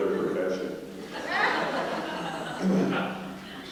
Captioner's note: laughter